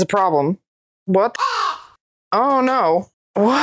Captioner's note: caw